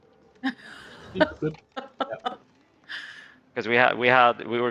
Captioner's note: laughs